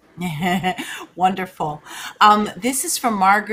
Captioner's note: laughs